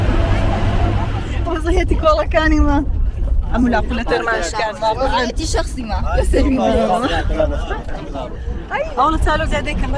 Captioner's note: car shaking us